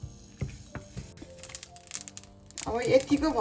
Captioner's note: pop